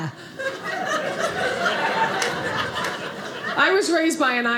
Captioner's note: audience laughing